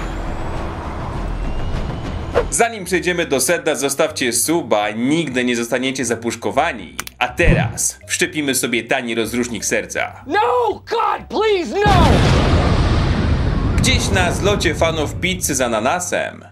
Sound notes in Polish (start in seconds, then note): 11.8 boom!